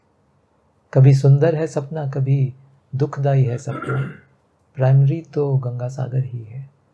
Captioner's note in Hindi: गला साफ़ करने की आवाज़